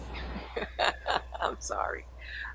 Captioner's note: laughing